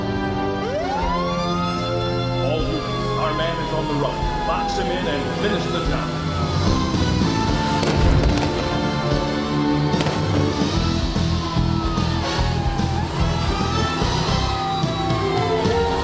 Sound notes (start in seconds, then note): 0.2 tense music; 1.1 sirens ringing; 7.4 dramatic music; 7.6 guns popping; 12.5 sirens ringing